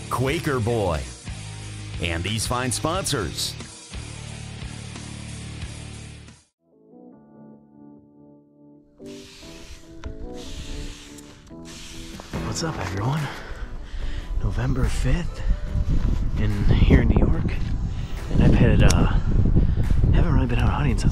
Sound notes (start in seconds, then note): 7.3 gentle upbeat music; 9.0 spray spritzing